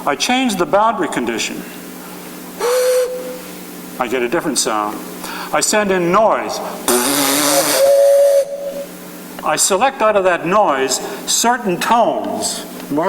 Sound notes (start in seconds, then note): 2.6 low whistling; 6.8 blowing raspberry; 7.0 whistling